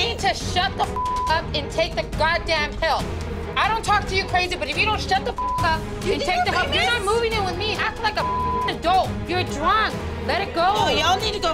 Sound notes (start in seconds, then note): 0.9 beeping; 5.3 beeping; 8.2 beeping